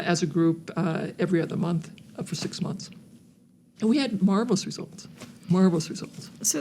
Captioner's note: none